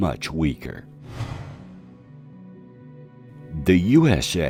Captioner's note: somber music; ghostly whooshing